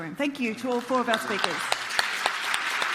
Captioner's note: audience applauds